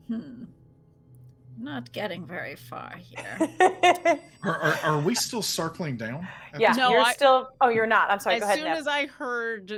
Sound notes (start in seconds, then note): 3.2 laughing